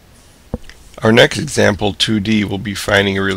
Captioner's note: voiceover